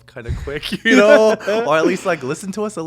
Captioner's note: both chuckling